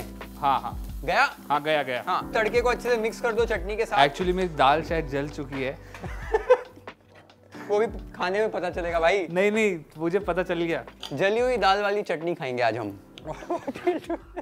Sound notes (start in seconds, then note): 6.0 both laugh; 13.3 laughs